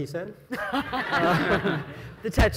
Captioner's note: panelists and audience laughing